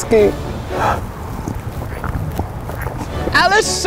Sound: slurping milk

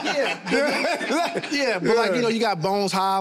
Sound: all laugh

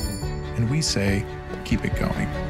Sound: bell ringing

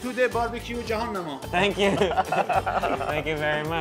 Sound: men laugh

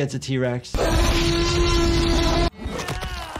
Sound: dinosaur roars; fighter groans

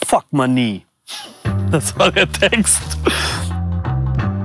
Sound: chuckles

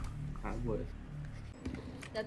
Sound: quietly

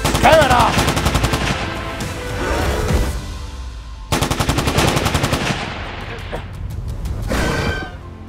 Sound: gun fire sounds

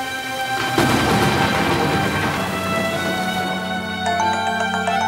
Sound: rain & thunders; mobile ringing

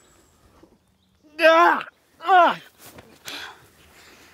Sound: cries in pain

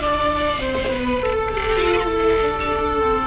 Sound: screen door squeaks

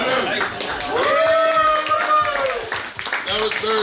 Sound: cheering

